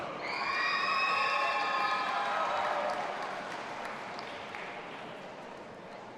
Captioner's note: audience applauding and cheering